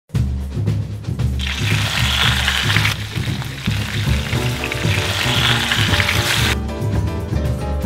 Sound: A Sizzling Sound

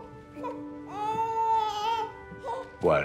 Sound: baby cooing

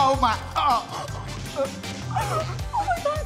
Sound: groaning

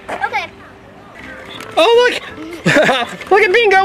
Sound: laughs

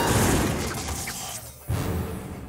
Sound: roaring

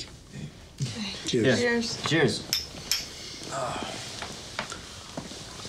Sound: bottles clink

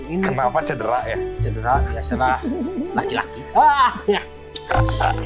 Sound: laughs

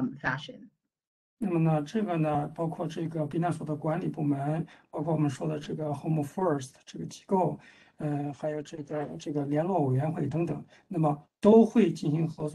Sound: speaks in Mandarin

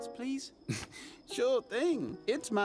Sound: chuckling

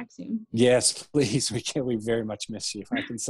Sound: laughing

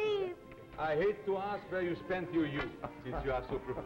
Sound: Philippe laughs

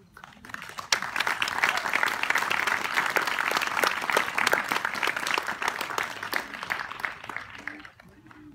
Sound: applause

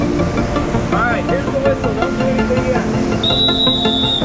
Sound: blows whistle

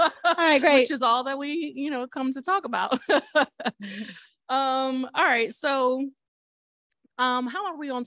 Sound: laughter

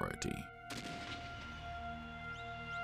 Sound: gunshot

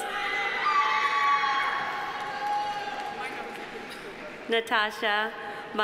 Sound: audience cheering; audience applauding

